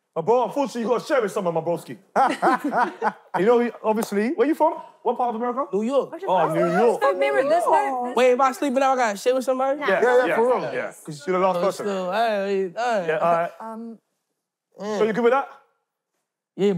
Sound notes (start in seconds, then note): 2.2 laughing